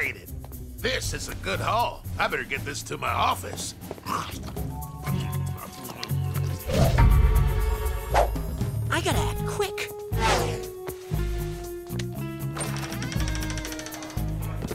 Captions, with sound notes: This is a good haul. I better get this to my office. I gotta act quick. [door creaking]